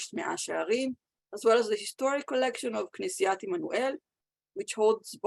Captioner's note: Hebrew; Hebrew